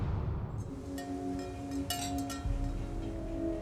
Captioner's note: wind chimes jingling